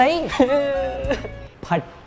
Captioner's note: intense sobbing